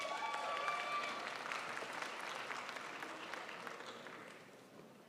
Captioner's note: crowd applauds